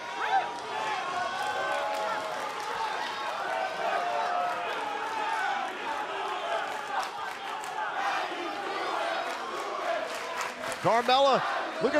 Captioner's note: crowd cheering